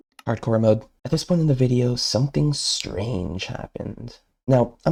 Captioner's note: voiceover